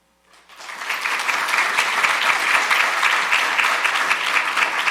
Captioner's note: audience applauding